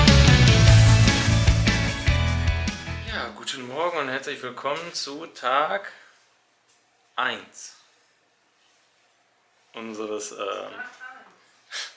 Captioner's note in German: lacht